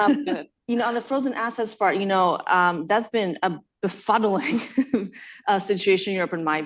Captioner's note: laughs